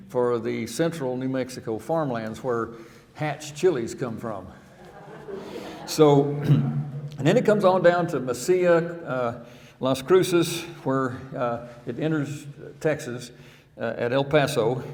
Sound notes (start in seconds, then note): 4.7 audience laughing